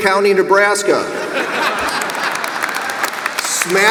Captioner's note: audience applauds and laughs